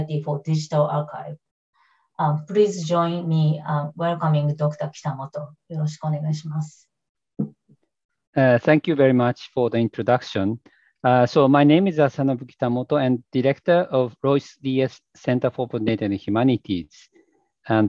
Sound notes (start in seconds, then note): 5.7 speaks in foreign language